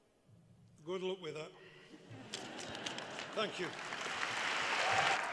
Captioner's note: applause